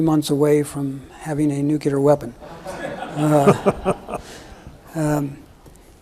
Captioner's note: everyone laughs